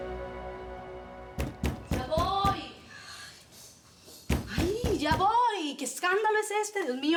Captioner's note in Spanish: Toques fuertes en la puerta